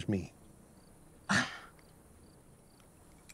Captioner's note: Clive scoffs